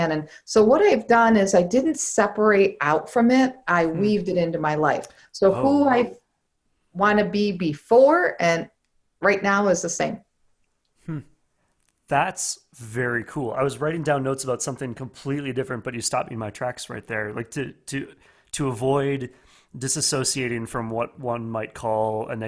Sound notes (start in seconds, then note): 11.0 hums